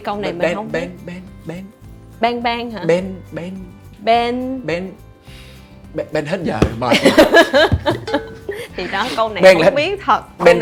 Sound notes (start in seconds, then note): 6.8 laugh